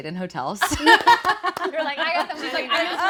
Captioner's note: group laughing